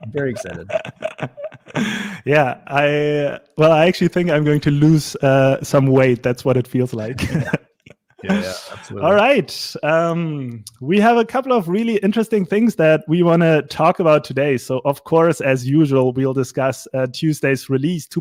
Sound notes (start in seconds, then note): 0.0 laughing